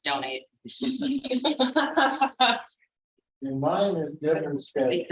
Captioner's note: laughter